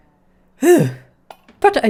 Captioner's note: relieved sigh